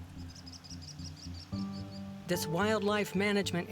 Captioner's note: chirping